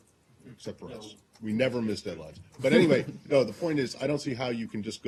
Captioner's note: laughter